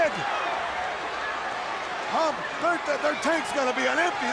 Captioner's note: crowd chatter